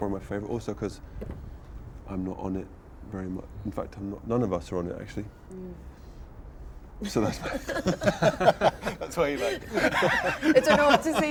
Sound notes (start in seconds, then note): 7.0 all laugh